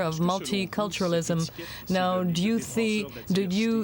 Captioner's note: speaking french